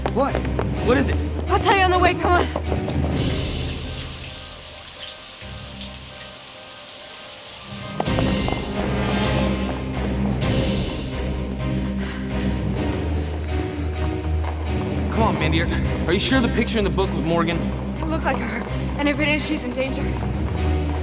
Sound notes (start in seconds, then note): 0.0 tense music continues; 3.1 shower trickling; 7.9 tense music continues